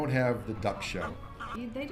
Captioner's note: animals sounds